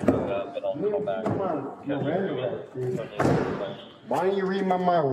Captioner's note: radio chatter